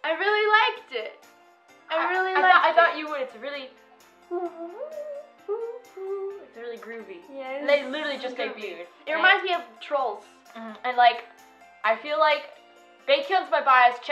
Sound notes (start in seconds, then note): 4.3 humming